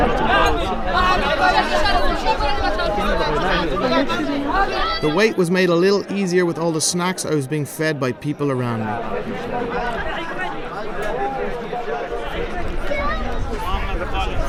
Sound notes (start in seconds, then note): 0.1 crowd murmuring; 9.8 crowd murmuring